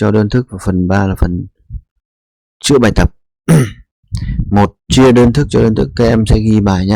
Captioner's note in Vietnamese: hắng giọng